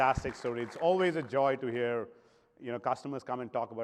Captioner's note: applause